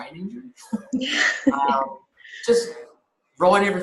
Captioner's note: both laugh